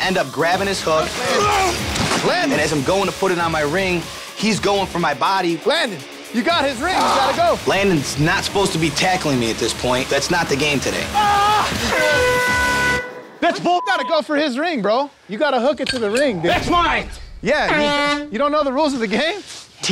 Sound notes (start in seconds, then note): 11.8 trigger air-horn; 13.7 beep